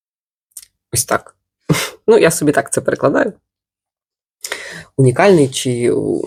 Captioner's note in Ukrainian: сопіння